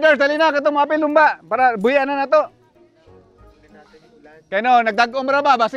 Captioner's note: speaks in local dialect